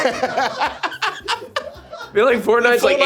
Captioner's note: laughing